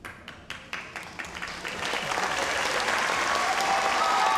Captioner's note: audience applauds